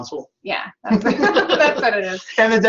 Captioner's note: laughter